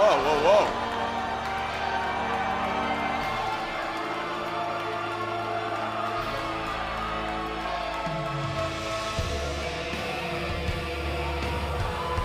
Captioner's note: crowd cheering